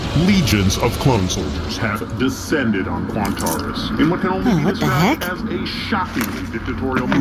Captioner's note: eating chips